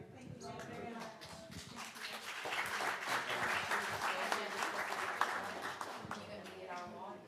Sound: applause

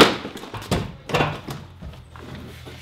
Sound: clatters; metallic banging

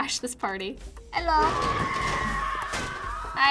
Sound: people scream

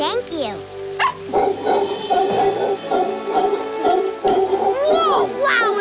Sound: howler monkey howls

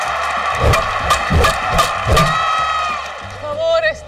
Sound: crowd cheering; bats pinging; Lupe and Esti speak in Spanish

